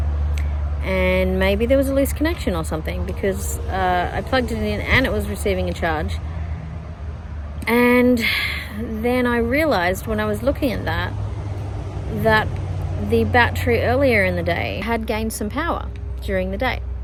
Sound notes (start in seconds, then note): 8.2 sighs